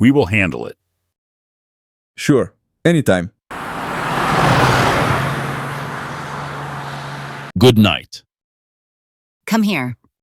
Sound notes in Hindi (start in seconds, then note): 3.5 कार चलती है।